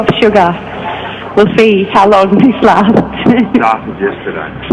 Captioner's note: laughs